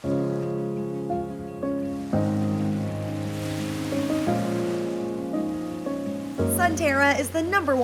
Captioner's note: waves crashing on beach